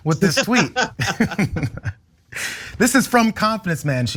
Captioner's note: laugh